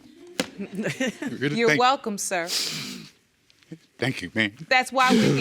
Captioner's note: audience laughing; chuckling